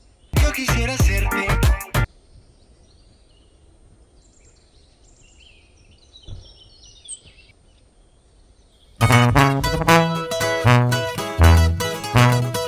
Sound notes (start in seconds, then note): 2.5 p￡jaros cantando